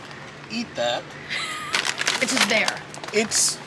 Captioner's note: laughing